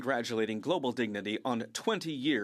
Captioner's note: speaking French